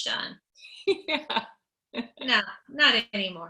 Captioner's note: laughing; laughs